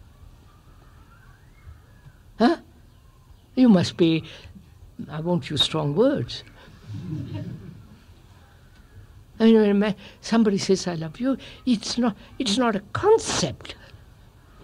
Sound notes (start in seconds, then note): 6.9 laughter